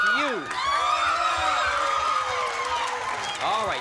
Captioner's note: cheering and applause